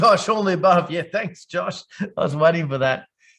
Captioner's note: chuckling